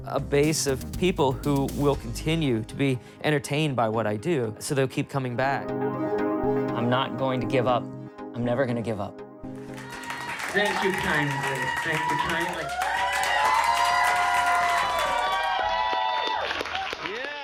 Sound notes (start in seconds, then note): 10.3 crowd applauding; 14.1 crowd applauding